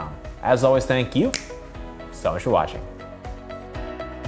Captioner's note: snaps fingers